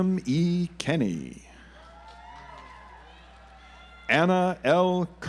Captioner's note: audience applauds